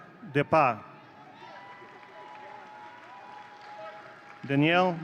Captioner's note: audience cheering